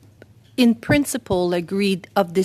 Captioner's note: speaking French